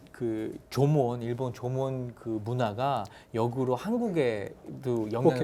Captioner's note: speaking in Korean